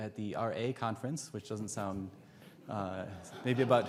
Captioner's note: audience laughs